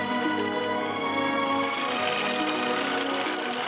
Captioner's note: horse cantering